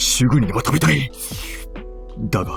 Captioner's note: drooling